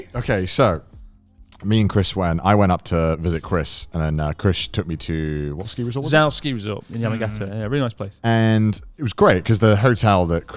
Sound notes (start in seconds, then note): none